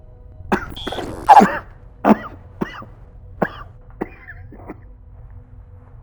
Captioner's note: coughing